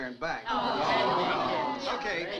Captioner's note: crowd groans